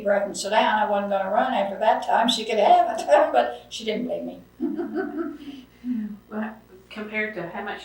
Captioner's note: laughs